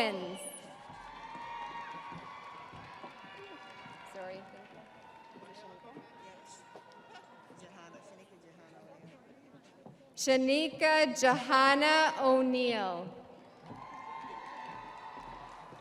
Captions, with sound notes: Shazanya Owens. (audience cheering) Shenika Johanna O'Neill.